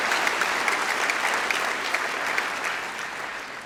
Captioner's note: applause